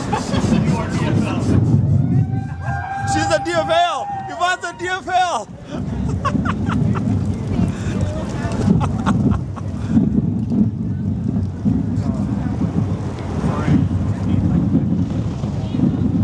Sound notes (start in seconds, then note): 5.6 laughter